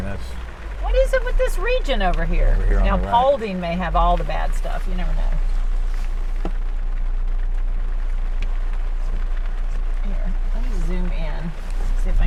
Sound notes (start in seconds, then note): 5.9 rain splattering